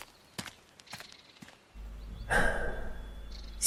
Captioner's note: sigh